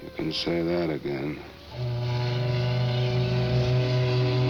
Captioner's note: ship's Whistle Blowing